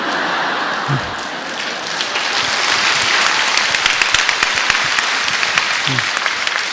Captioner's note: audience laughter and applause